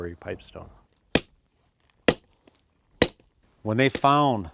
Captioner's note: hammer dinging on rock